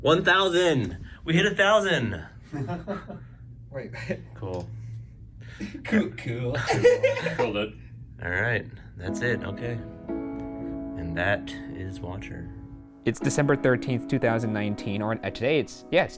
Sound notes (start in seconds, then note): 2.5 chuckles; 6.5 laughs